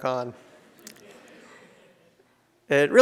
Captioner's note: audience laughs